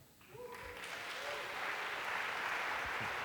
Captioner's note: applause